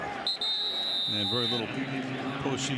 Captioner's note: whistle